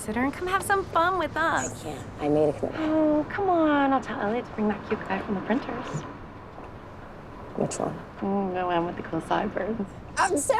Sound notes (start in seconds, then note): none